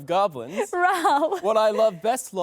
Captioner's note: chuckles